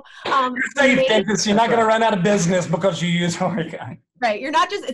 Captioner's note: laughter